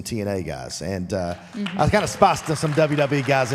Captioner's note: audience applauds